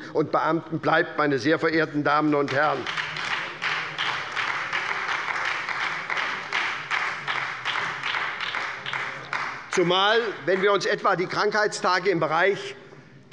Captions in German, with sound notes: und Beamten bleiben, meine sehr verehrten Damen und Herren. [Beifall bei der SPD] Schauen wir uns einmal die Krankheitstage im Bereich